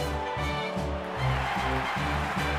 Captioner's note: crowd cheering